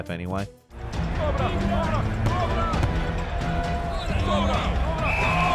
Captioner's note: dramatic music; football players chattering; whistle shrills